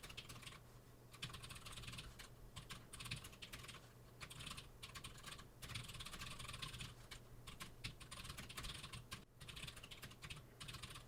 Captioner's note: typing sounds